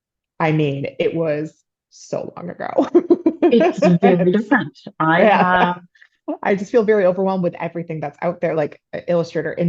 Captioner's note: laughter